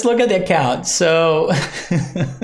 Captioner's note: laughs